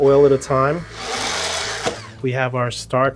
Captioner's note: blender whirling